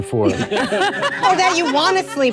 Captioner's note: panelists laugh